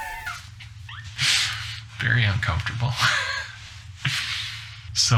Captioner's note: laughing